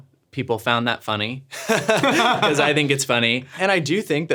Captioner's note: laughing